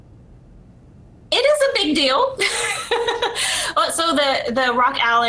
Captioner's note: laughs